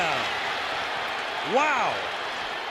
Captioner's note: crowd clamoring